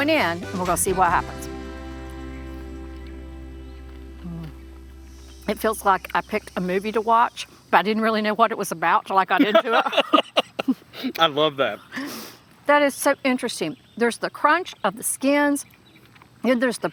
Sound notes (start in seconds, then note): 9.4 laughing